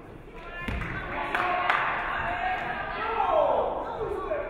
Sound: audience clapping

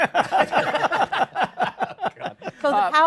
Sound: laughter

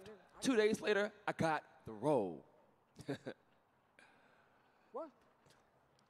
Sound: chuckling

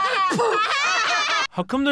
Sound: laughter

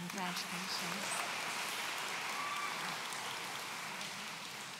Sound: audience applauds

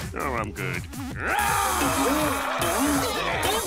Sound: screaming

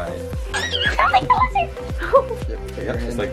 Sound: screeches

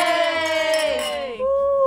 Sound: glasses clinking

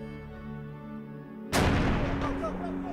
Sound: bomb bangs

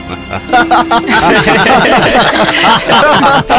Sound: laughs

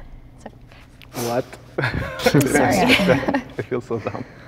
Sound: exhales; laughs

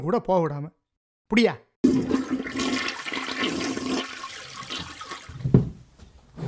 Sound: flushing sound

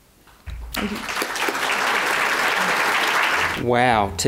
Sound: audience applause

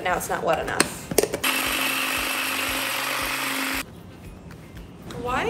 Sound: machine buzzing

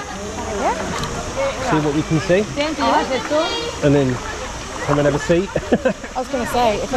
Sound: laughter

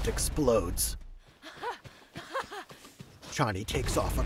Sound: laughing

